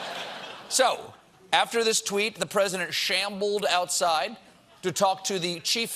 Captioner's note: laughter